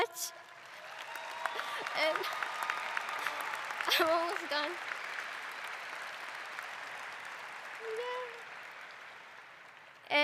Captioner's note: applause and cheering